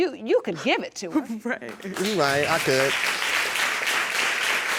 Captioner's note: sobbing